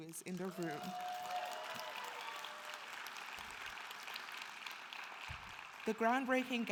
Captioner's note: audience cheering and applauding